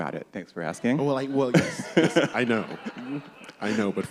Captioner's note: laughter